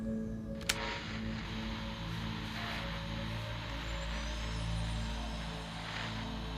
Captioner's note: radio static